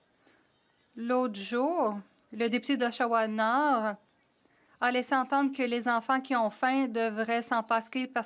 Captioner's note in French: voix de l'interprète